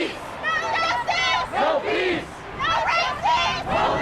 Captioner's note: crowd